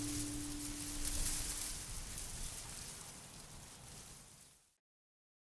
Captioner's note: wind whooshing